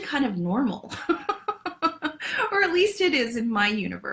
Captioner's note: laughs